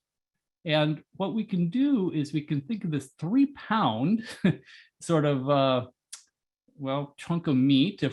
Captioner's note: laugh